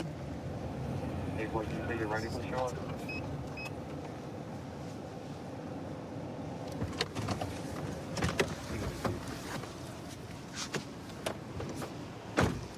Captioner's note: indistinct dispatch speech